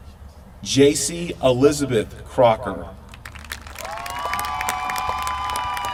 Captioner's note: applause